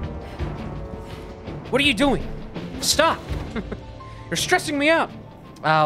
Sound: dude voice

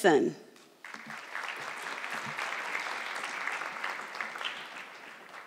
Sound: audience clapping

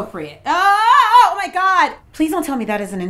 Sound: screaming

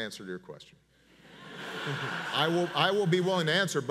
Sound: audience laughs

